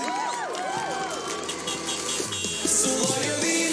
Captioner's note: cheers and car horns